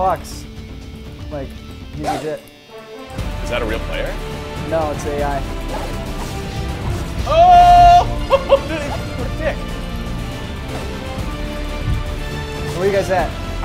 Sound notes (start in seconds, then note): 7.2 laugh